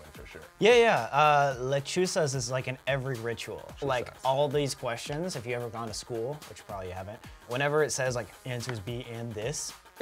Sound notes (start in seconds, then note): none